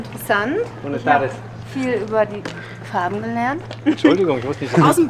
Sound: in Spanish

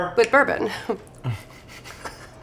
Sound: snicker

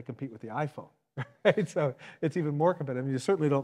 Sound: laughs

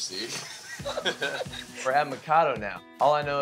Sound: laughs

